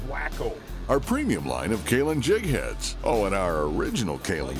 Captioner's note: voiceover